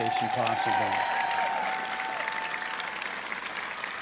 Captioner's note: applause